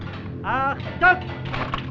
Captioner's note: German spoken audio